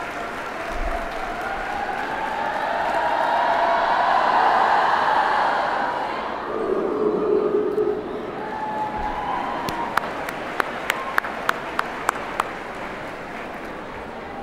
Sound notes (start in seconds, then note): 2.3 cheering; 11.8 applause